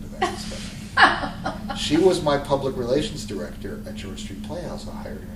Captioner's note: laughter